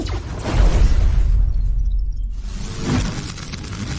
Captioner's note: exploding stinger